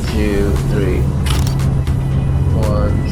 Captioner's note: camera clicks